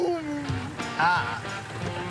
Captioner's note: groan